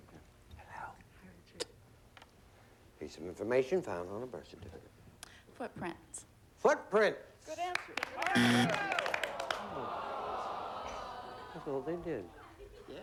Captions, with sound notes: PIECE OF INFORMATION FOUND ON A BIRTH CERTIFICATE. FOOTPRINTS. FOOTPRINTS. [BUZZER] [AUDIENCE GROANS] I THOUGHT THEY DID.